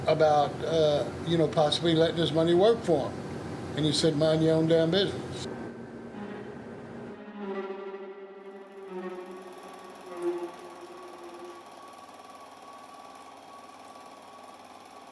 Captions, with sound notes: about possibly letting his money work for him." And he said, "Mind your own damn business." (anxious string music) (projector humming)